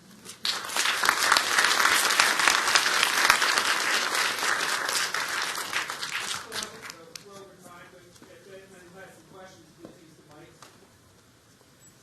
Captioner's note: applause